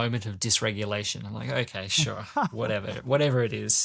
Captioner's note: laughs